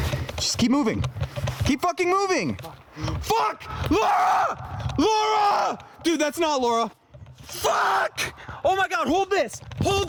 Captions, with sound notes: [sighs] Just keep moving. Keep fucking moving! [screaming] Fuck! Laura! Laura! Dude, that's not Laura. Fuck! Oh my God, hold this, hold this!